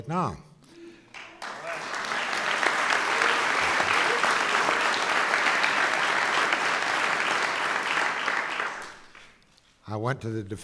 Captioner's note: applause